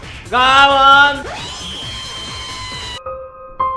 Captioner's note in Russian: Чей-то крик